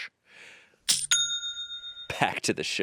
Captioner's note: cash register dings